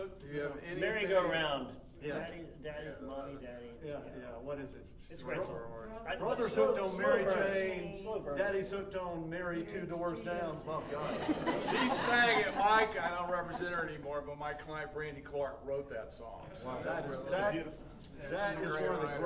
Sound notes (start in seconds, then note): 10.7 audience laughing